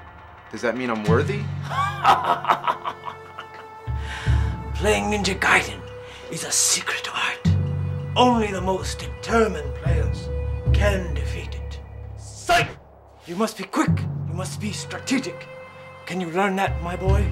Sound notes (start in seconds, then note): 1.6 Ninja laughs